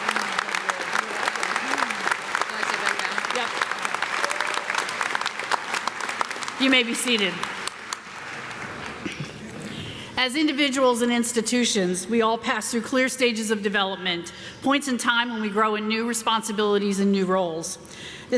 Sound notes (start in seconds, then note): 2.2 ladies chattering